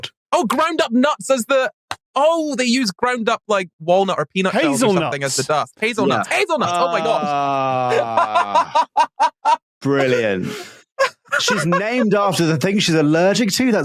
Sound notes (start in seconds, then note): 6.6 laughs hysterically; 10.1 wheezes